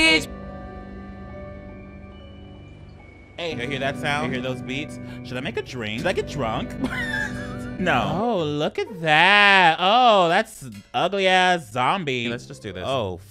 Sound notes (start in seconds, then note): 1.3 creepy music; 6.0 laughs